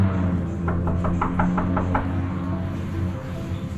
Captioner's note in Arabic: طرق الباب